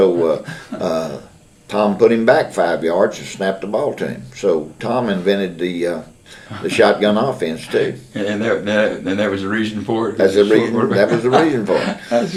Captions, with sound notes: the line, so Tom put him back five yards and snapped the ball to him. Tom invented the shotgun offense, too. (Laughter) That was the reason for it, due to a short quarterback? That was the reason for it.